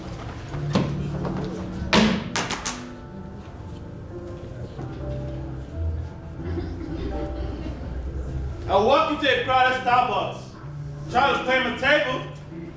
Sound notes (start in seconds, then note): 1.9 thumps